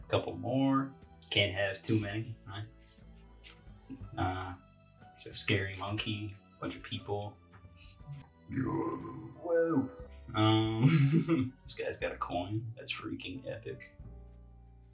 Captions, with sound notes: Couple more, can't have too many, right? Uh, that's a scary monkey, bunch of people. (wretched burp) WOAH Ummm This guy's got a coin, that's freaking epic.